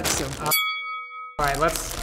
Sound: bell ring

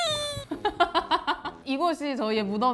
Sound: hahahaha

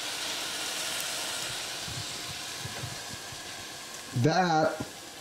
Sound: hot eye sizzling

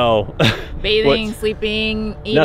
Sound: laughs

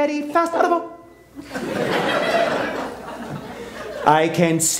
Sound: laughter

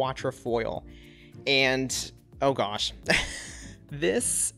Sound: laughs

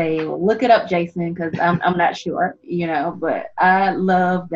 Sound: chuckles

